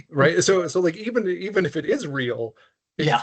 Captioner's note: chuckling